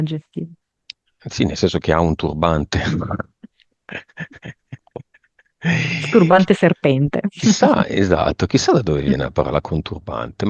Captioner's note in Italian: risate